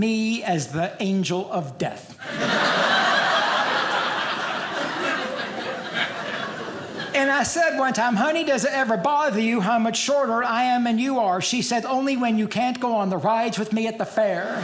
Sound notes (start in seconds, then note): 2.2 audience laughing; 14.4 audience laughing